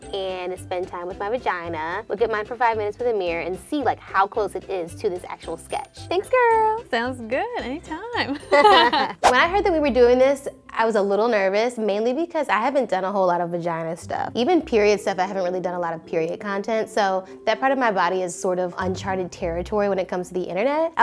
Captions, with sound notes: and spend time with my vagina. Look at mine for five minutes with a mirror and see like how close it is to this actual sketch. Thanks, girl. - Sounds good, anytime. (laughs) - When I heard that we're doing this I was a little nervous, mainly because I haven't done a whole lot of vagina stuff. Even period stuff, I haven't really done a lot of period content. So that part of my body is sort of uncharted territory when it comes to the internet.